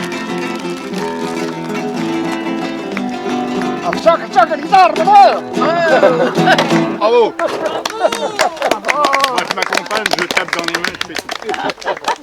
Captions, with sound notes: (clapping sound) Me, I accompany myself, I clap my hands.